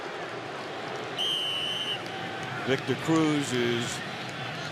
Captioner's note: whistle blowing